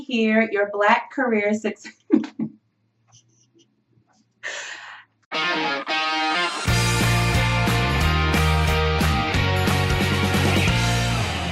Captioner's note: laughing